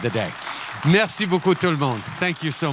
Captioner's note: applause